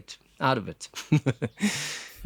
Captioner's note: laugh